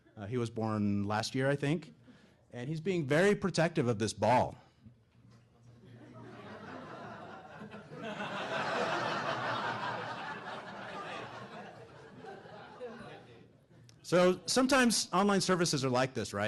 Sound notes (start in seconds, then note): 5.9 laughing